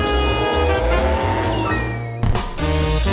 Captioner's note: SFX: Car engine reve